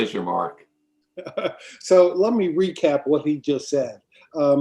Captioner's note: laughs